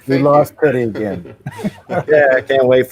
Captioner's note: laughter